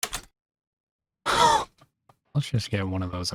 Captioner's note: blind wheeze